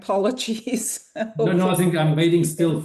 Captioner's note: laughing